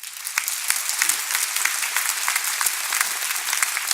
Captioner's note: applause